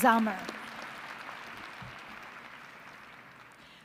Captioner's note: applause